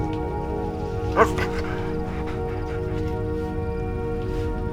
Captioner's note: Lana barking briefly; soft tense orchestral music